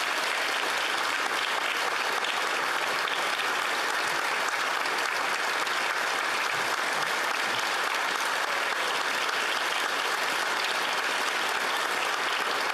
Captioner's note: applause